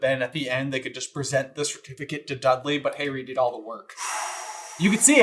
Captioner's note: long exhale